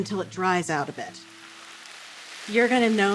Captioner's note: sizzling